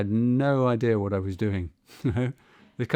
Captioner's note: chuckles